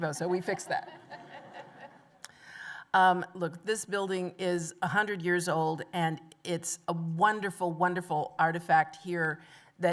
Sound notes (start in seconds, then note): 0.5 laughter